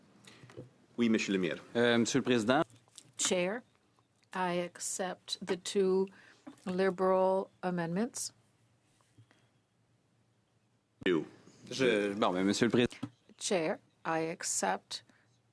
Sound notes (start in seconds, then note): 12.7 speaking French